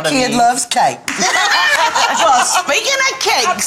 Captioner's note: girls laughing